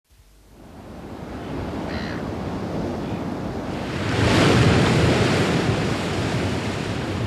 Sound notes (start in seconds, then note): 0.6 pounding surf; 4.4 roaring waves